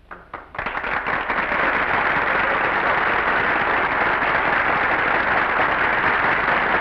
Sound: applause

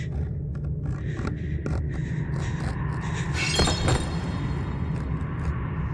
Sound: wood scratches; glass shatters

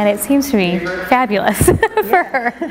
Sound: laughing

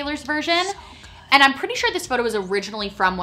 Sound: whispers

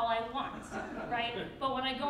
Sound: crowd laughs

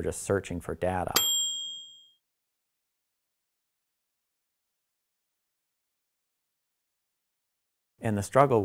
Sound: ding

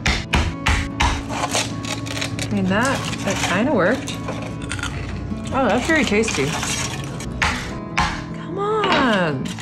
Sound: crunch

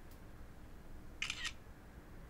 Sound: camera clicks

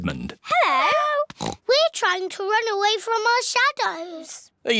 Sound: oinks

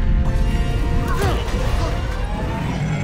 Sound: exclaims

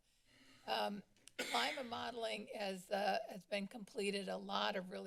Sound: coughing

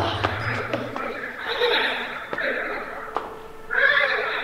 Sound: jumping and grunting; weird alien noises

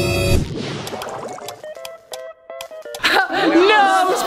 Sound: lights clicking

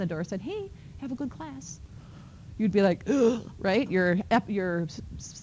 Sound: gasps

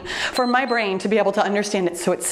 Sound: timer beeps

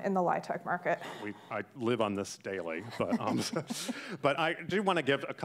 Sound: laughs

